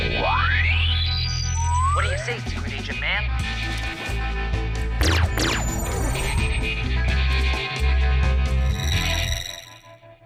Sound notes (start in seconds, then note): 5.0 laser sfx